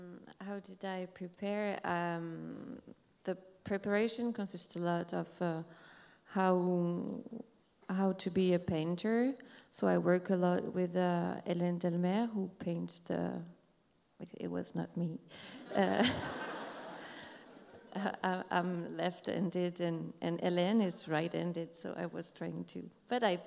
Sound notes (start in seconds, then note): 15.6 laughs